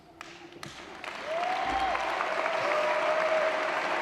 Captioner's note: applause